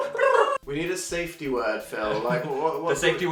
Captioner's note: laughs